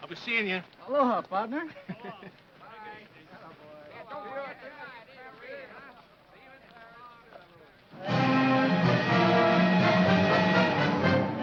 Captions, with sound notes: - I'll be seein' ya. - Aloha, partner! (men chattering) (triumphant music)